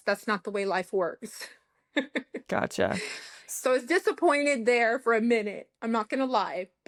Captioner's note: laughter